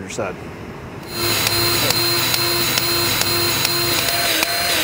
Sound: grease gun revving

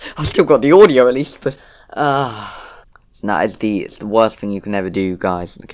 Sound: sigh

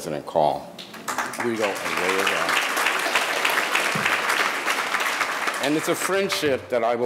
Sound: audience applauding

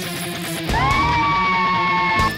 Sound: screaming

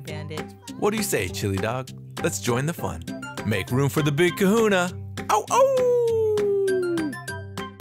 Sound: Bandit Howls

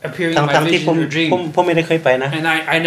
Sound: speaks in foreign language

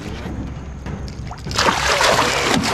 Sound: fish splashing

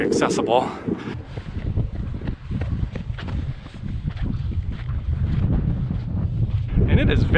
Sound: wind blowing

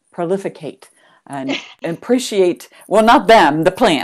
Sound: laughs

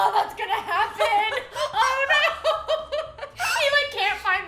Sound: both laughing

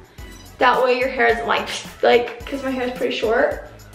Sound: blows sharply

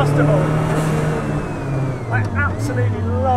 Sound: car engine roars

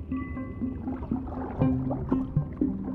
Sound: scuba equipment bubbles

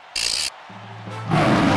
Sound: loud roar

